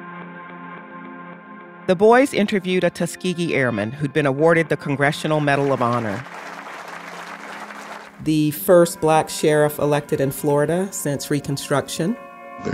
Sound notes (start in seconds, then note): 0.2 suspenseful music; 5.4 audience applauding